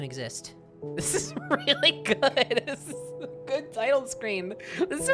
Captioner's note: laughing